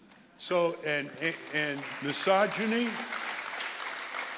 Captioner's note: audience applauding